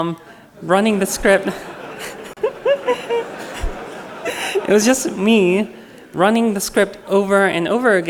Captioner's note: laughter